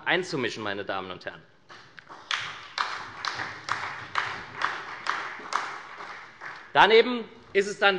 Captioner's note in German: Beifall bei der SPD